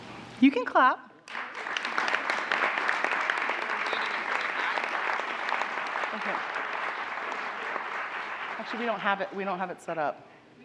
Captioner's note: applause